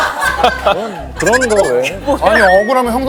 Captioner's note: laughs